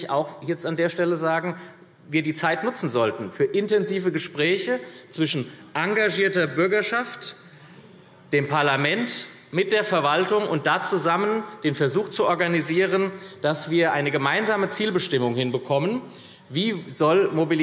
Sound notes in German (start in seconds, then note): none